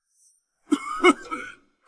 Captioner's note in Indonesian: batuk